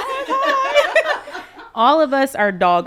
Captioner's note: people laughing